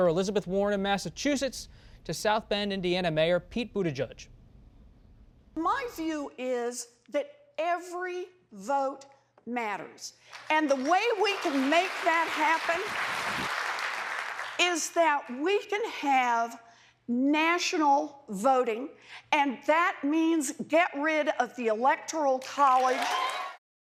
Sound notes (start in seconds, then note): 10.2 applause